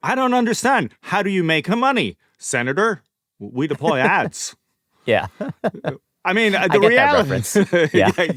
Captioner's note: laughter